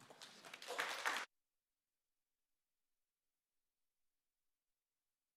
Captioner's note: audience applauds